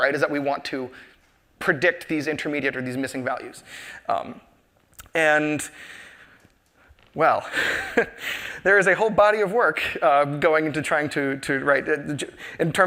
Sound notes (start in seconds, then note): 7.4 chuckles